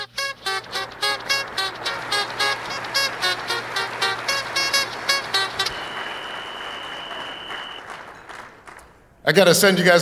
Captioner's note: applause